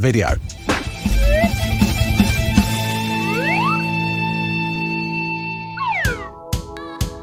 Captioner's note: lively music; graphic whooshing